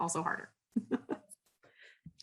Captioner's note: laughs